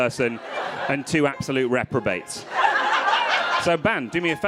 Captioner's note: crowd laughing